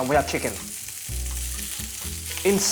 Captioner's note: sizzling sound